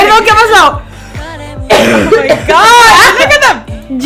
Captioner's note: chokes